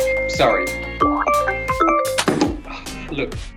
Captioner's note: phone beeping